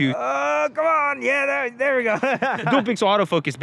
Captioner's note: laughs